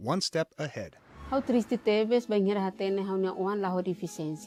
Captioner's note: non-english speech